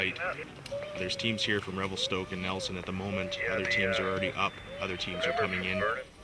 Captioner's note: voiceover